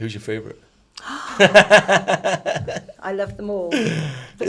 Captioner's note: laughs; gasps